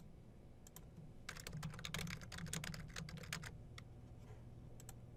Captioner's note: typing